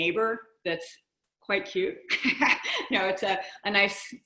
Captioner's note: chuckles